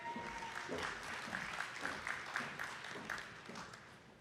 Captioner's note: attendees clapping